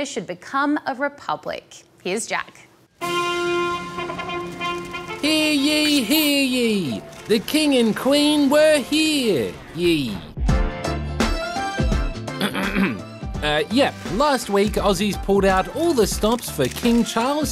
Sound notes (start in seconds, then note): 3.0 fanfare plays; 12.4 clears throat